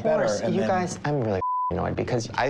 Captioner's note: beep